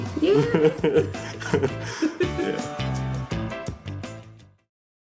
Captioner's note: both laughing